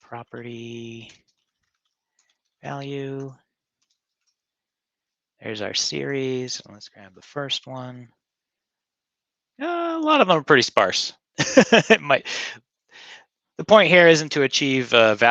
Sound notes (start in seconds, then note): 3.1 keyboard clicking; 11.4 laughing